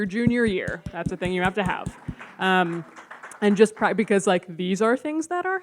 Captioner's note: audience claps